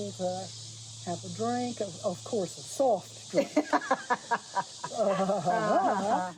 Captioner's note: lauging